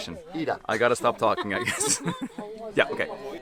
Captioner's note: chuckles